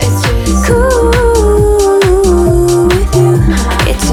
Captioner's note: Haha